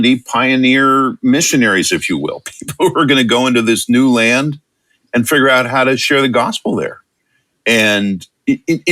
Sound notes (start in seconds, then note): 2.5 chuckle